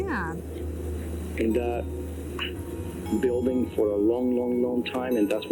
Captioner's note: recording playback